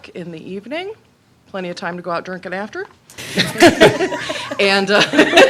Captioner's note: laughter